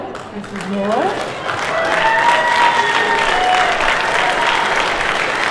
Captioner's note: cheers and applause